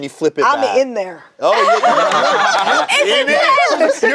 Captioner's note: group laughs